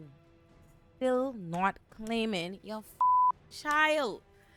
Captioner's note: beep